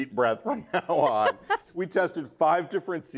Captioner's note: laughs